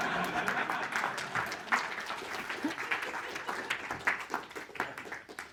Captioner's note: laughter; applause